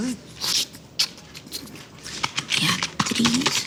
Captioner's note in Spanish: Refunfuña